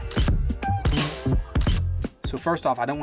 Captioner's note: shutter clicking